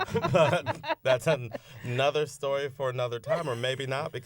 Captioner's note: laughter